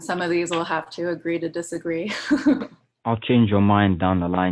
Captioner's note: laughs